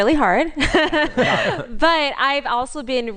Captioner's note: laughter